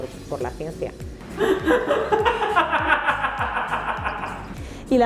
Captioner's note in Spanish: risas